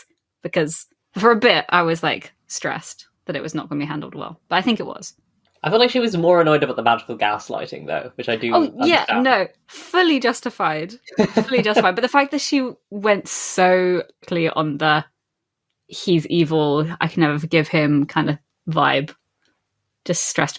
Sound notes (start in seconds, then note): 11.0 laughs